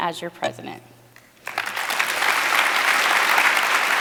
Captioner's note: applause